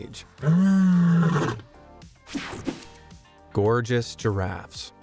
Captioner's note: lion roaring